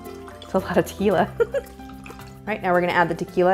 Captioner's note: giggle